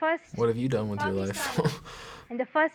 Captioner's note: chuckles